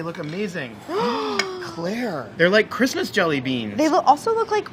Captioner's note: gasps